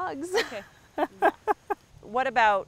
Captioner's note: laughter